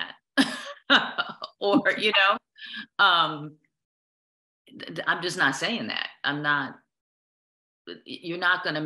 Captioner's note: laughter